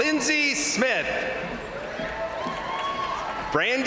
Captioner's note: crowd cheering; crowd applauding